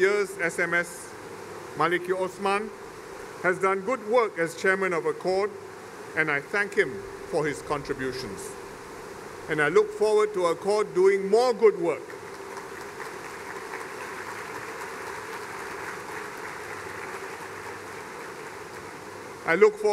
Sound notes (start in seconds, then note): 12.0 applause